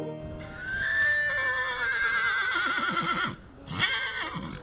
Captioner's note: horse neighing loudly